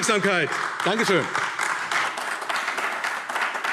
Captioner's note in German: Beifall AfD